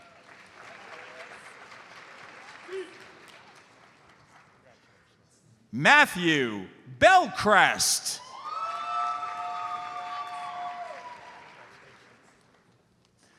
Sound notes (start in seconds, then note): 0.2 audience applauds; 7.0 audience applauds